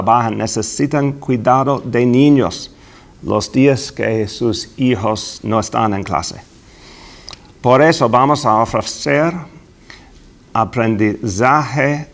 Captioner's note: speaking spanish